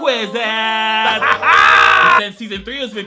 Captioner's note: maniacally laughing